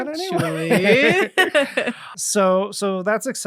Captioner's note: laughing